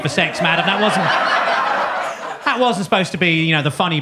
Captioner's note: audience laughs